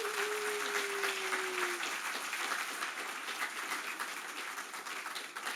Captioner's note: applause